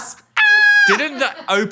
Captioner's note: Dan screaming